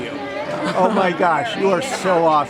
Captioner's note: chuckles